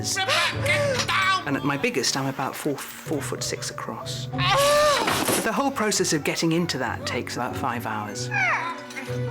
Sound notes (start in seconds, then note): 4.1 marge grunts